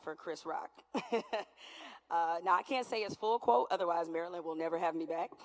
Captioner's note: laughter